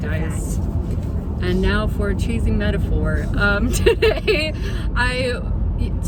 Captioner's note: laughs